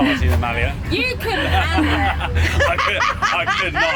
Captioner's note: laughing